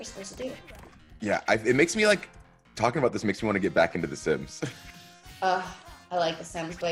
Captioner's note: laugh